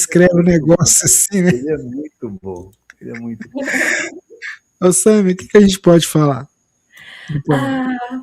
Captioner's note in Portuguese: risadas; risadas